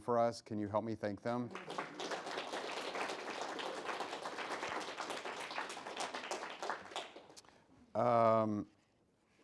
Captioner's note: clapping